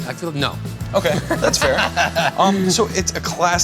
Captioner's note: laughs